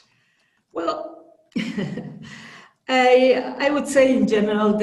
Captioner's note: chuckles